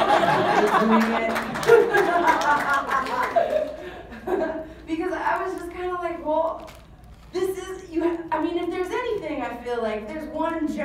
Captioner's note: laugh